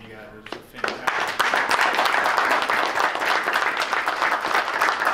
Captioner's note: clapping